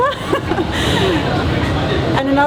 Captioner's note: laughs